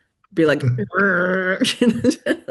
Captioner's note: imitates grunting; chuckles